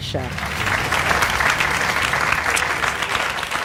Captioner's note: audience applauds